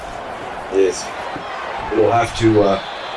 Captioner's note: crowd Noises